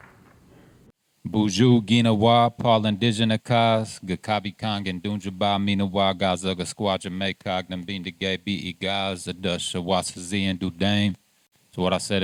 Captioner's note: speaking Ojibwe